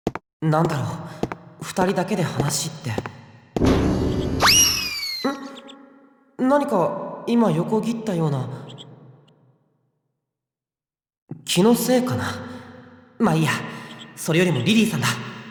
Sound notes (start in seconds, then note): 9.4 silence